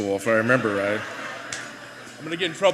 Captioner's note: laughter